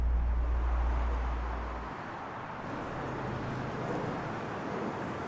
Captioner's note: traffic rumbles